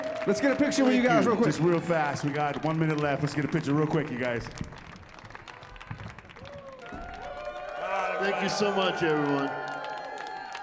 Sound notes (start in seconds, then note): 5.8 audience applauding; 10.4 audience cheering